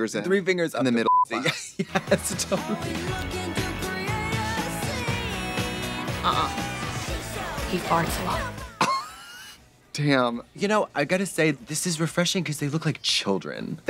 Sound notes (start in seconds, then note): 8.8 Trixie wheeze laughs